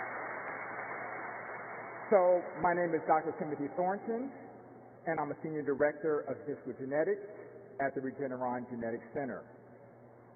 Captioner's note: applause